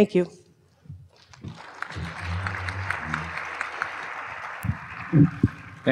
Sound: applause

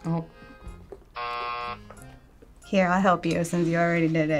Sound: buzzer

